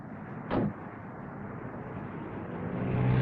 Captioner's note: car door thudding; engine rumbling